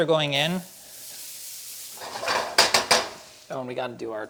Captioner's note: shallots sizzle; spatula bangs against pan